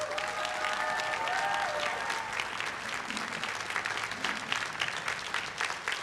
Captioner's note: everyone cheering and applauding